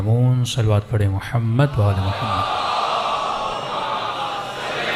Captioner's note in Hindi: चीखने की आवाज़